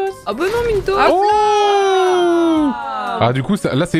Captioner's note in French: exclamations de soulagement